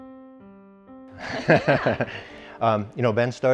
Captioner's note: all laughing